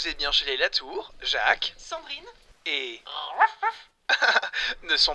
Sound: dog barks

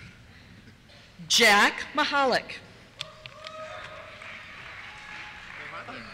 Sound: cheers

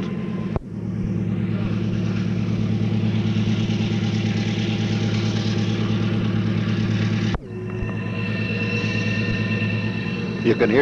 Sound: sound of the train moving

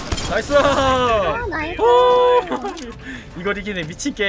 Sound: laughs

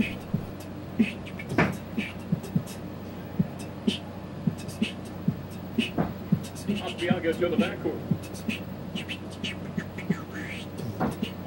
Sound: beatboxing

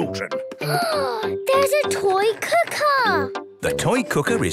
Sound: gasps

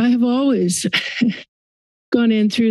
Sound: chuckles

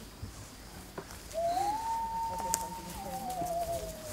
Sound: loon Call

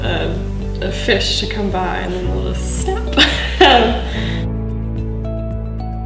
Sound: laughs

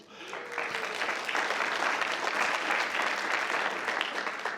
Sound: crowd clapping

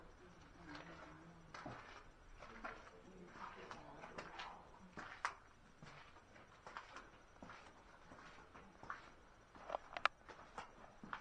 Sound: footsteps

